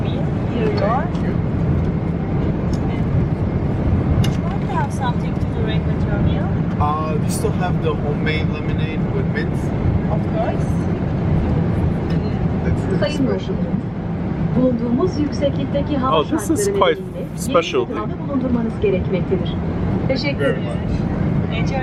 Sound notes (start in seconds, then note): 14.9 in foreign language